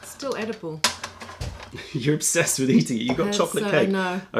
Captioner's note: laughter